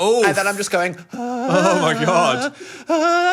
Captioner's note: whimpers